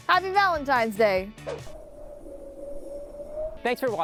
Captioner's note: wind blowing